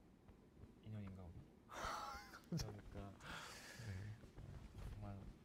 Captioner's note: laughs